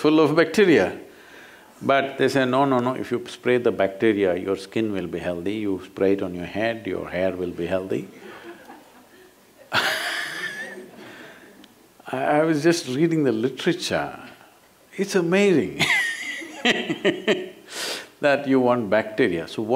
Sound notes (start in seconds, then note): 9.6 laughter; 16.4 laughs